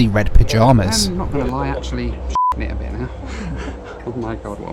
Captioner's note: beep